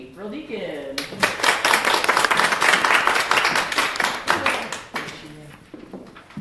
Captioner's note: applause